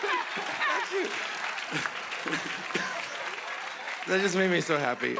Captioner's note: laughing